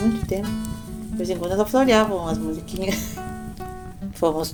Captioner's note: laughs